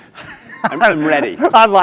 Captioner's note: laugh